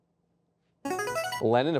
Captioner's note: buzzer chimes